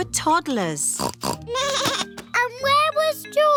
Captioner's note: snorts; bleats